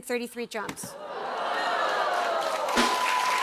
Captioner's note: audience "Ohhs"; cheers and applause